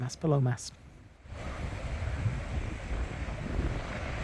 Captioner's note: sound of waves on the beach below